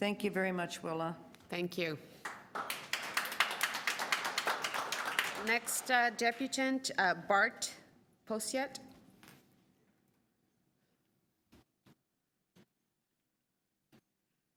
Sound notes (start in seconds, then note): 2.2 applause